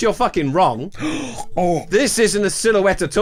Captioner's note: gasps